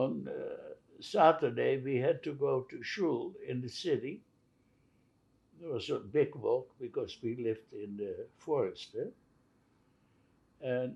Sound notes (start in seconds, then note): none